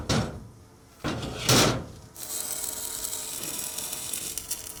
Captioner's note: sparking